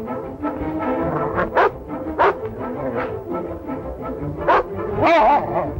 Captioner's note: barking